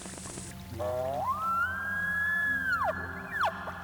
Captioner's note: elk bugles